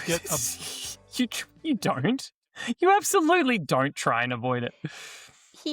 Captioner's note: laughs